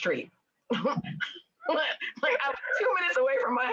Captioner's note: everyone laughs